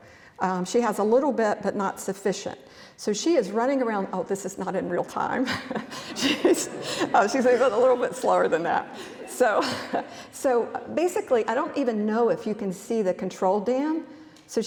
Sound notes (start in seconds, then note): 5.4 laughs; 5.5 audience laughs